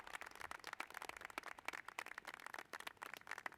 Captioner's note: cheers and applause